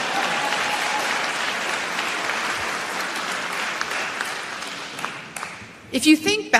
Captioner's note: applause